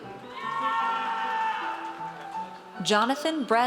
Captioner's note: audience cheers